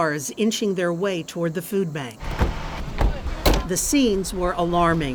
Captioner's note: car doors slam shut